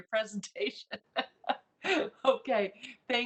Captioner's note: laughs